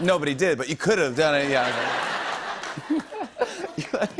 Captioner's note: laughter